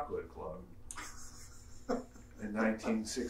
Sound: laughing

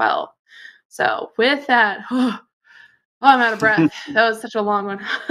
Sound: sighs

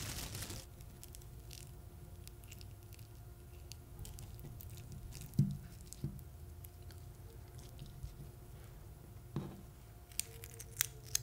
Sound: sounds of arranging orange slices

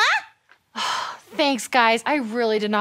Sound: sighs

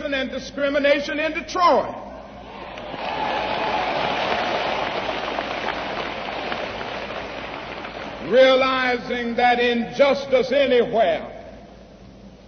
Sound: applause

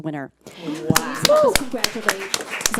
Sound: audience applauds

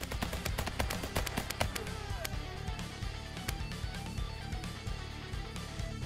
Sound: gunfire

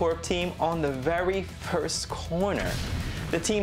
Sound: vehicle exploding

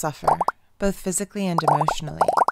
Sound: acne images popping

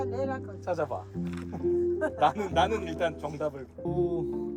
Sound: haha

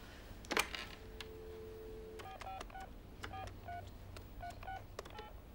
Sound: phone clicking and buzzing

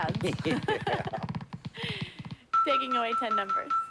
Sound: laughs

